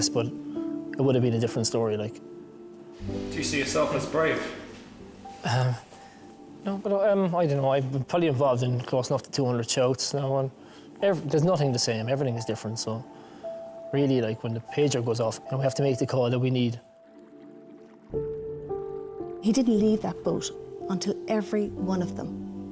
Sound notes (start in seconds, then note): 5.8 gentle music; 17.0 gentle music; 17.0 water trickles